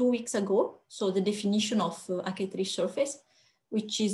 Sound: french

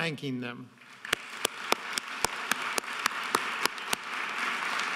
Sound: audience applauding

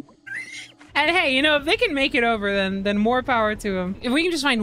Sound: laughs

